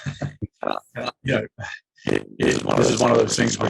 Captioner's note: chuckles